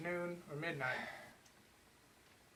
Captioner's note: sigh